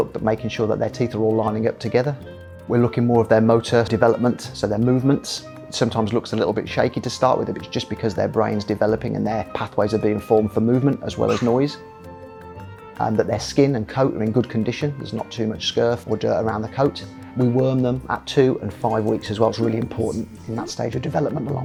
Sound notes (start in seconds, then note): 11.2 young puppy barks